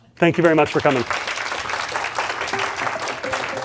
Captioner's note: applause